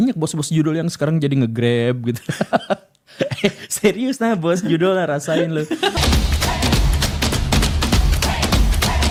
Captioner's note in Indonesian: tertawa